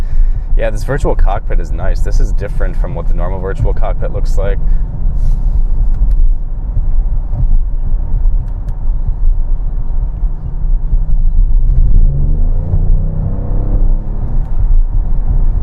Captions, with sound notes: Yeah, this virtual cockpit is nice, this is different from what the normal virtual cockpit looks like. (low thudding) (engine revving)